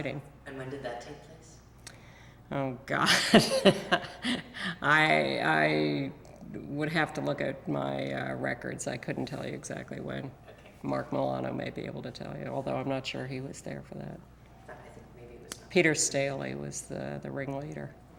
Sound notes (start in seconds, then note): 3.1 laughs